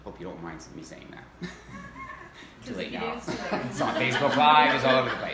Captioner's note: laughs